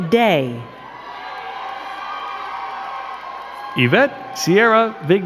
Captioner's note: crowd cheering and clapping